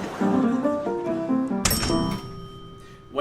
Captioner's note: elevator ding